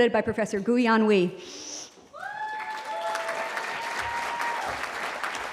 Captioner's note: cheering